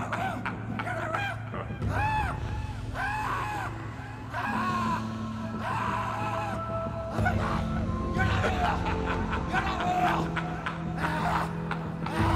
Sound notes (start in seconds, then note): 4.2 screams; 8.6 laughing